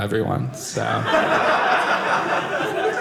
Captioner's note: audience laughing